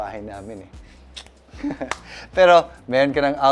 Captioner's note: chuckles